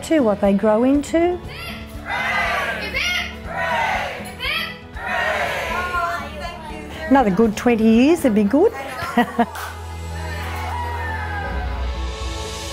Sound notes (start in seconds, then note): 8.8 laughs; 10.1 cheers